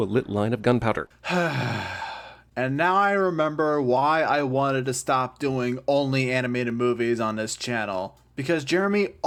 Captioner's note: sigh